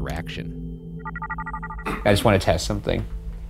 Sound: screen whirring

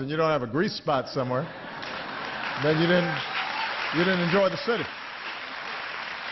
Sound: laughter

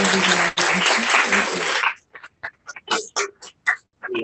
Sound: applause

